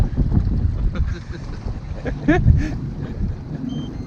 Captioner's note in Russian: смеются